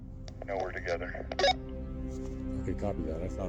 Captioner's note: radio chirps